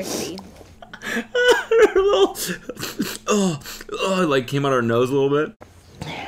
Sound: <i>sniffing</i>

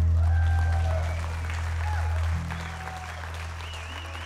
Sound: audience applauds

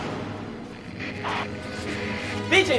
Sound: metal banging; radio static

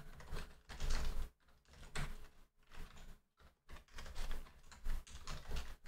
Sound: typing

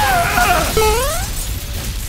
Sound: wall explodes; Mario Bros jump sound

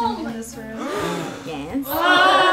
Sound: gasp

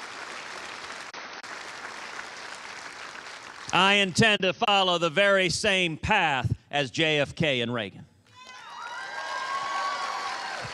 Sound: cheers and applause

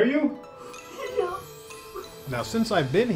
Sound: sobbing

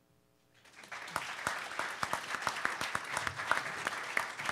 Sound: audience applause

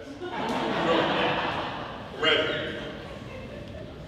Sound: audience laughing

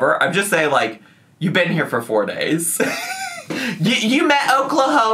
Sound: laughs

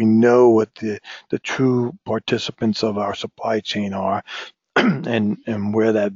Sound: cough

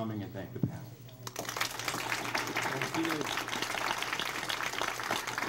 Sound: crowd applauds

